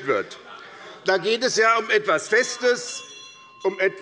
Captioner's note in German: Unruhe - Glockenzeichen des Präsidenten